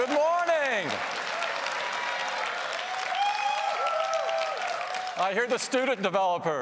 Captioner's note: applause and Cheering